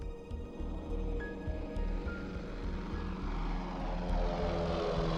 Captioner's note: engine purrs